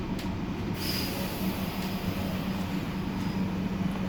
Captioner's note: hiss of air